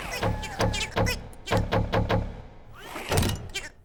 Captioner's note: chattering; banging